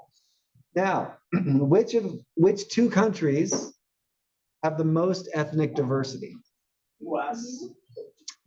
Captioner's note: cough